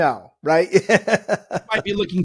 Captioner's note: laughs